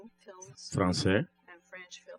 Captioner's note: speaking french